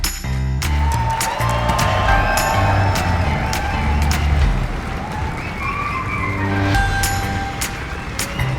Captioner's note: cheers